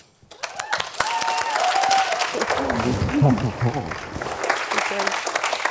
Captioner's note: audience applauding